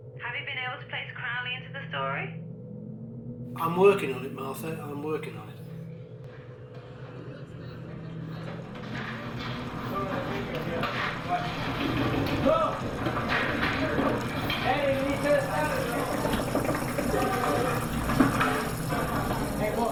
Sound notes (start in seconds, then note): 7.3 people chattering; 11.3 dishes clattering; 11.6 food sizzling